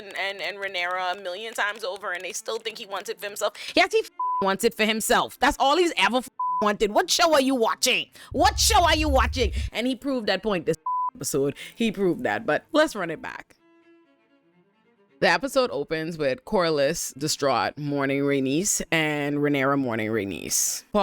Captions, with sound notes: and Renara a million times over and they still think he wants it for himself. Yes, he (beep) wants it for himself. That's all he's ever (beep) wanted. What show are you watching? What show are you watching? And he proved that point this (beep) episode. He proved that, but let's run it back. The episode opens with Cora-less, Distraught, Morning Rainice, and Renara Morning Rainice.